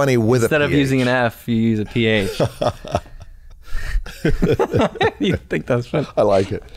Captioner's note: laughter